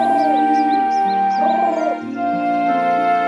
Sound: bird sounds

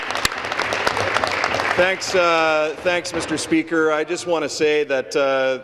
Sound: applause

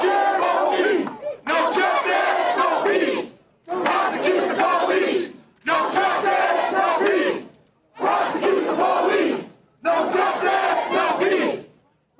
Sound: crowd chanting

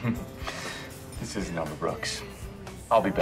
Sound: chuckles

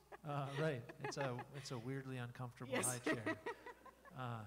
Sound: laughing

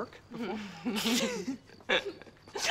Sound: <i> laughing</i>

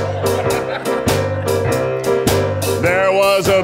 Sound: audience laughing

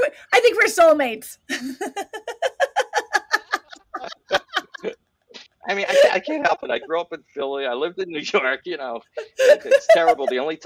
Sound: laughter

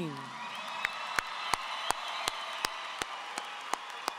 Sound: audience applauding

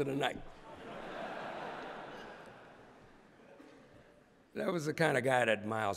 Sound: laughter

